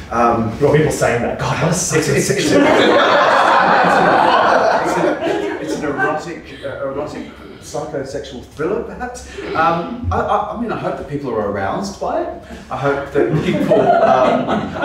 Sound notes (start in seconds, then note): 2.4 audience laughs